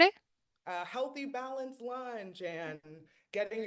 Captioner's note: hablando inglés